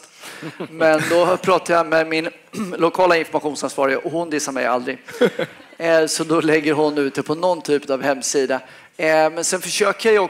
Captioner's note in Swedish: skratt